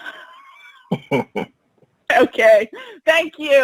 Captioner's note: laughter